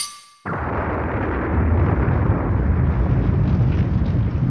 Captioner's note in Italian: esplosione in lontananza